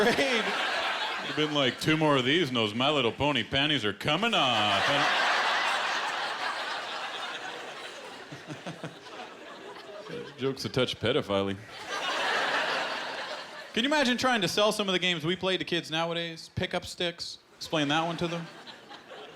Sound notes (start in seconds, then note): 4.3 laughter; 11.6 laughter